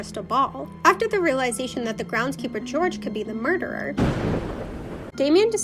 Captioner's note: thunder